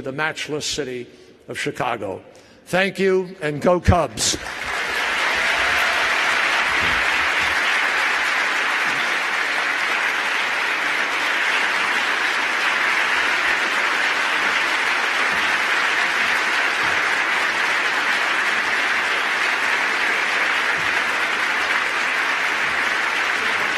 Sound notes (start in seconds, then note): 5.1 applause